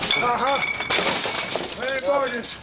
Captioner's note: glass shatters